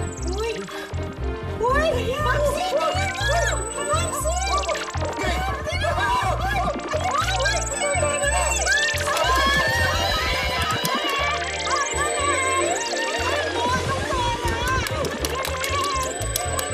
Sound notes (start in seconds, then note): 5.1 all cheering; 8.9 cheering continues